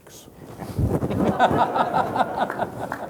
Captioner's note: laughter